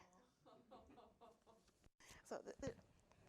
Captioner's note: audience laughing